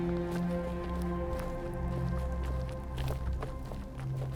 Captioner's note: none